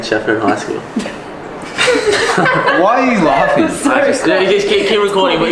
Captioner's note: all laugh